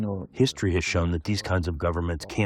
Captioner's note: through translator